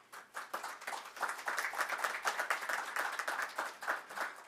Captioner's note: audience clapping